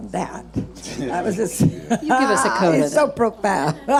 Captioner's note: laughing